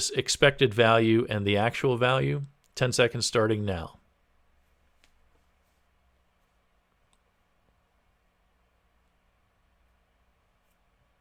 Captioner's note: pause